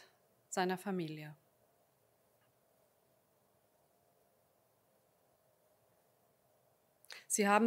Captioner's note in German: Schweigeminute